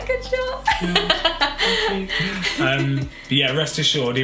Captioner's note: laughs